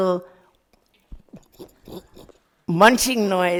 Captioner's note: making munching noises